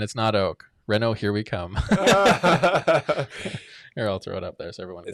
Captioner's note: all laugh